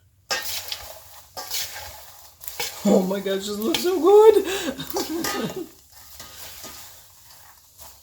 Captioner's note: laughing